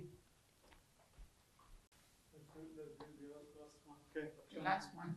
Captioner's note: hebrew